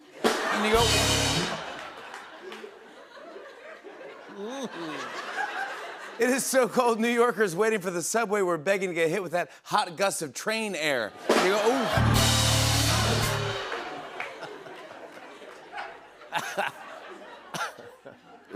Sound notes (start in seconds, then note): 0.2 rimshot; 1.3 laughter; 12.3 rimshot; 13.8 laughter